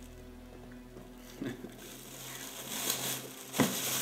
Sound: chuckles

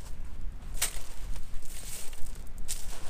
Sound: sand digging sound

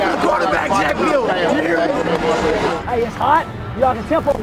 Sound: team chatter

